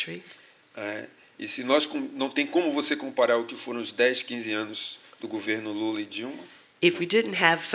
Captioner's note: speaking portuguese